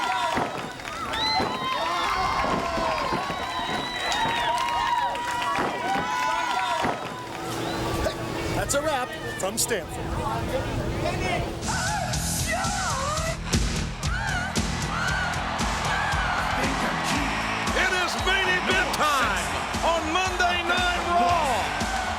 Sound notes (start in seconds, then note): 2.6 body thuds; 4.6 audience cheering and clapping; 13.6 upbeat music; 13.8 audience cheering